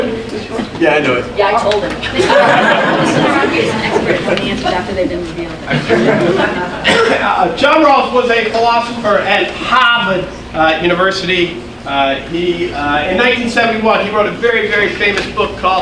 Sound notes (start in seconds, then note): 0.2 audience laughing; 2.0 audience laughing; 4.3 audience murmuring